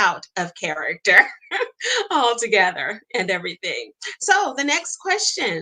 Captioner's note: laughs